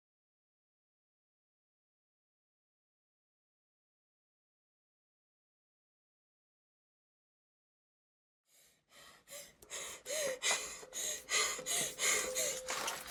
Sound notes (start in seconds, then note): 9.6 rapid gasps